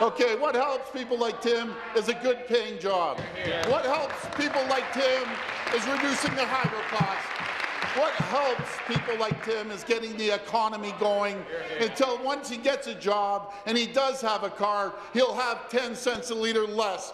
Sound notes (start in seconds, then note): 7.5 applause